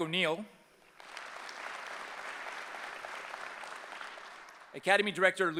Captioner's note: applause